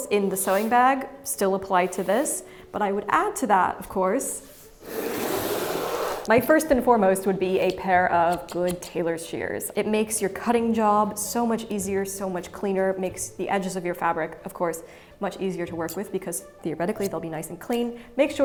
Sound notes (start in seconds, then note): 4.6 sewing kit scrapes